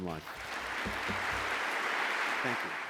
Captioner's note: audience applause